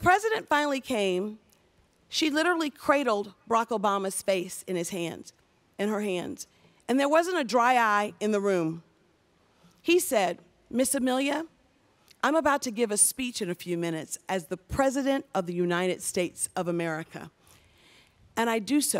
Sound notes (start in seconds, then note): none